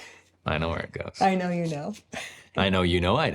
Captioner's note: laughs